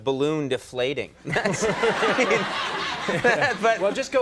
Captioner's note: audience laughing